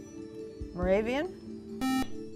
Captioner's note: beep